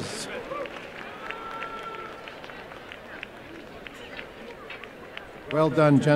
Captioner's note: applause and cheering